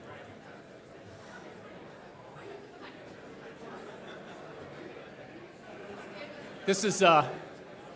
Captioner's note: collective chatter